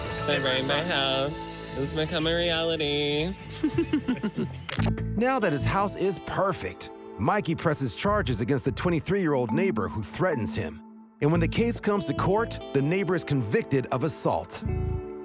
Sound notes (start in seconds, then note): 3.4 chuckles